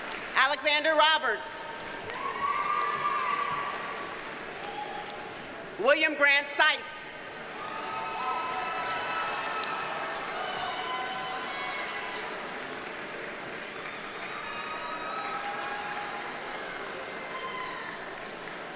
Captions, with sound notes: Alexander Roberts. (audience cheers and applauds) William Grant Seitz. (audience cheers and applauds)